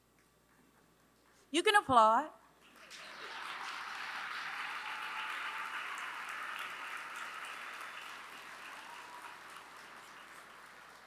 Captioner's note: applause